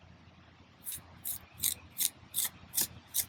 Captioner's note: trowel scraping